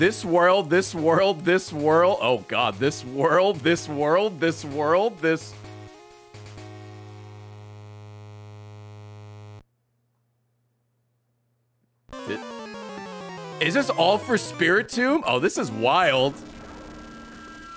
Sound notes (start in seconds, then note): none